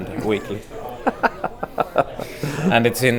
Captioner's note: Destin Laughing